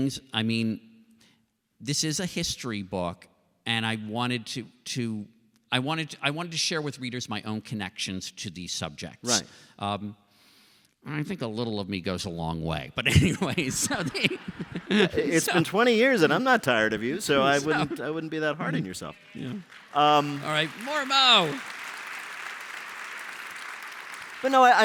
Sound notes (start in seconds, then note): 13.0 laughter; 23.2 applause